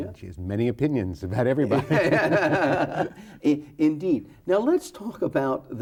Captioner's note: both laughing